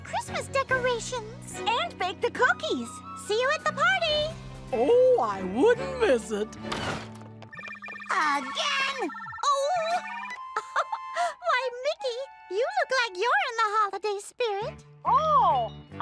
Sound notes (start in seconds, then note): 7.5 phone ringing; 9.6 giggles